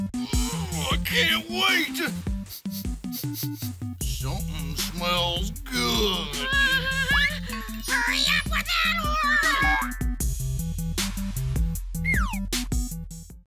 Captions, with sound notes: (GROANS) I can't wait! (SNIFFLES) Somethin' smells good! (PENGUIN WHIMPERS) (YELLS) Hurry up with that order!